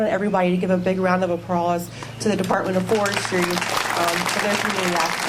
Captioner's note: applause